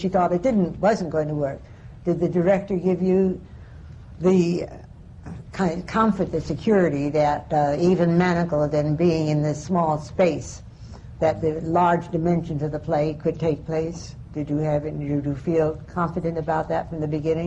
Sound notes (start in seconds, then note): none